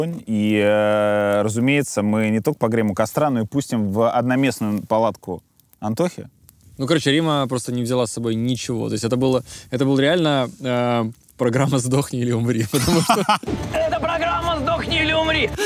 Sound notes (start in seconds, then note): 12.6 laughs